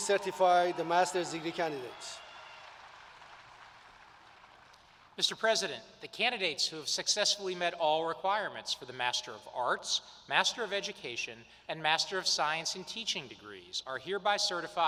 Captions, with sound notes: obligations appertaining thereto. Congratulations. [ Applause ] Please be seated. I will now recognize the candidates for the Master's Degree. Will the